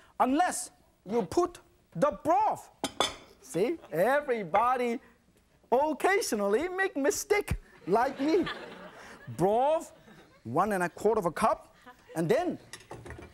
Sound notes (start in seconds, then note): 7.7 audience laughing